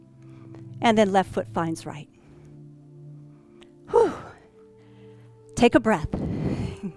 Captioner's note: sigh